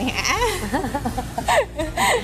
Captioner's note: laughing